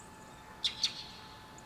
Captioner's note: bird noises